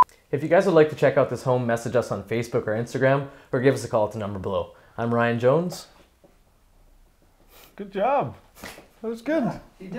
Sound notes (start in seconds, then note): 6.0 silence